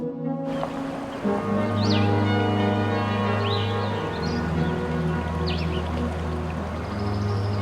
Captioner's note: birds chirping